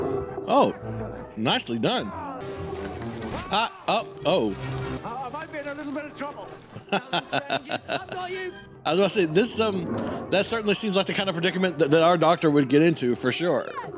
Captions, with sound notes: Oh! Nicely done. Ah! Uh...Oh. [laughing] I was about to say, this is- that certainly seems like the kind of predicament that our Doctor would get into, for sure.